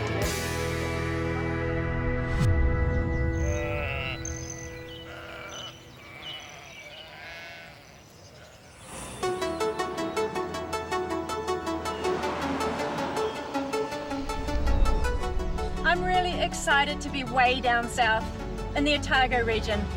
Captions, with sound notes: (SHEEP BLEAT) (DYNAMIC MUSIC) I'm really excited to be way down south in the Otago region.